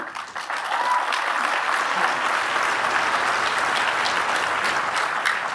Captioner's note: applause